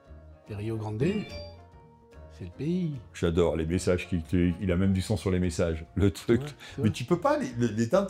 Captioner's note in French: Bruit de notification